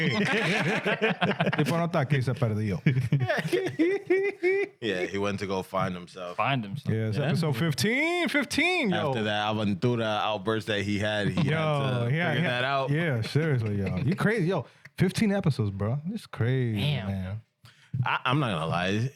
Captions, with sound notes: (Speaking In Foreign Language) (Laughing) (Speaking In Foreign Language) Yeah, he went to go find himself. Find himself. Yeah, so 15, 15. After that, I went through the outbursts that he had. He had to figure that out. Yeah, seriously, yo. You crazy, yo. 15 episodes, bro. It's crazy, man. I'm not gonna lie.